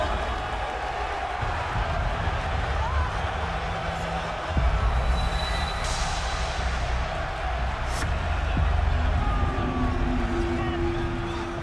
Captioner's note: crowd cheering